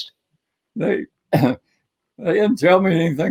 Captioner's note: coughs